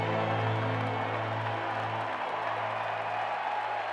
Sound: crowd cheers

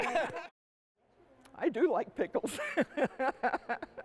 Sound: laughs

